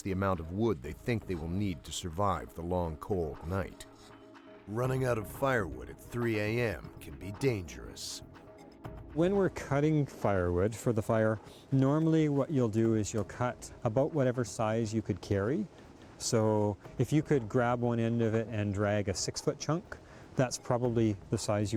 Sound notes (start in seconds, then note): 6.8 voiceover